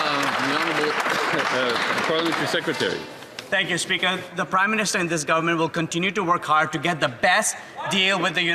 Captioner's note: some Applause